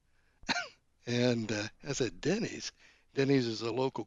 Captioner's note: laughs